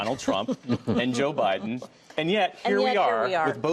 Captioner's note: laughter